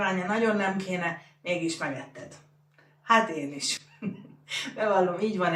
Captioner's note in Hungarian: nevetés